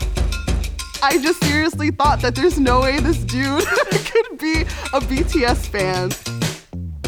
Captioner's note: laughs